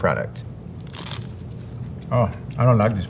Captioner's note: mouth crunching